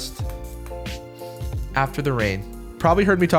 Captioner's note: sniffs